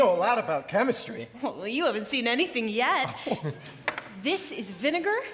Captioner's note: Tin Man laughs